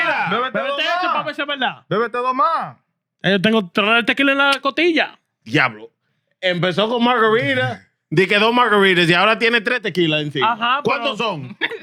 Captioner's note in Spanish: Hablando español